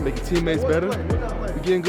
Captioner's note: group chattering